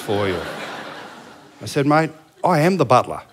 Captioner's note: laughter